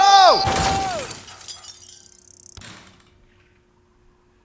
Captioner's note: crashing noise